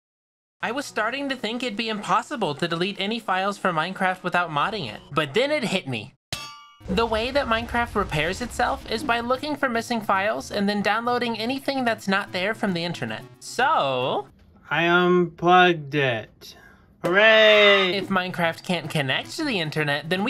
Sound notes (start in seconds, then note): 6.3 anvil Clang